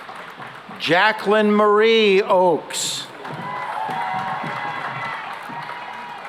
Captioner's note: cheering and applause